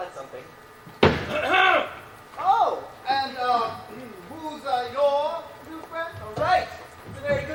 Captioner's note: John Little slams staff and loudly clears throat